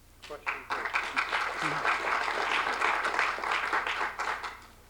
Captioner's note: applause